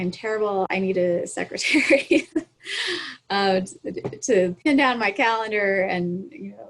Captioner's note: laughs